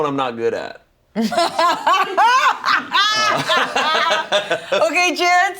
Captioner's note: laugh